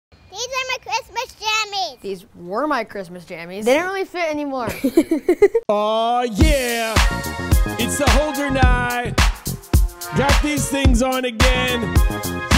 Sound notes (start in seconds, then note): 4.6 laughing; 6.3 upbeat music